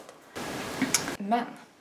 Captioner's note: lip smack